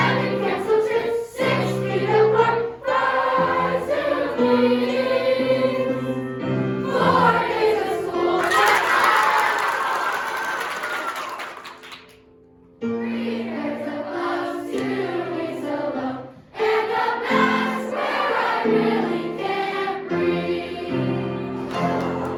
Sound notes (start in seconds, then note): 8.4 clapping